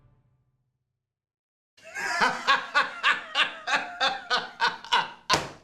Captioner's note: laughs